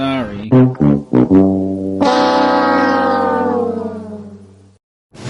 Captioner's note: "fail horn" sound from The Price is Right